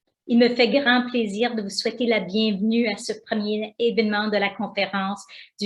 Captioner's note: speaking foreign language